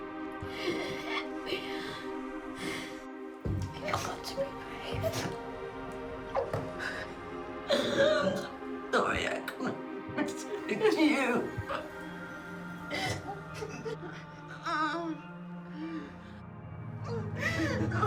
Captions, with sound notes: - Yeah. You've got to be brave. (Mia crying) Don't worry I can't spread it to you. (both crying)